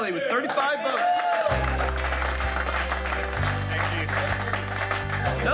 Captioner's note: audience applauding